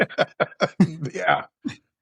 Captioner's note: laughing